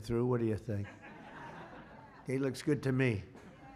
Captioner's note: laughter